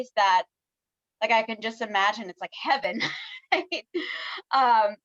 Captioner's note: laughs